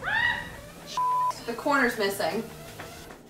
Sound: screams; beep; chuckles

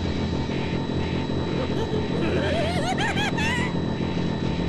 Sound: Carnage laughs more maniacally

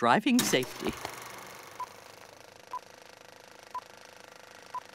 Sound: beeping

